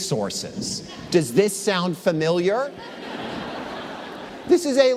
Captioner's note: laughter